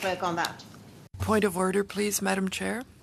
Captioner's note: speaking French